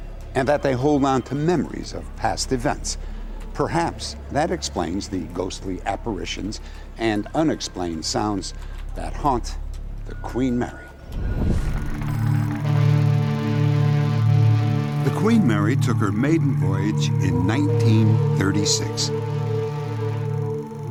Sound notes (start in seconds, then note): 12.6 horn sounding